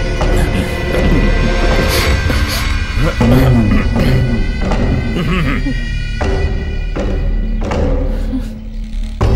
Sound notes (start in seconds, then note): 3.2 clears throat